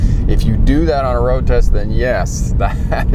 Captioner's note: chuckling